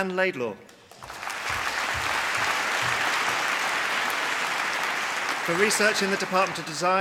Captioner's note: applause